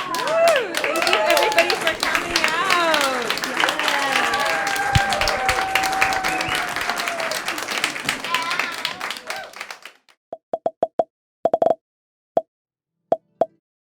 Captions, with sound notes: - Thank you, everybody, for coming out. (applause) (popping)